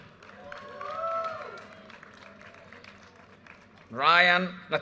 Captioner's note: audience cheers and applause